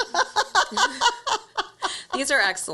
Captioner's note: laughs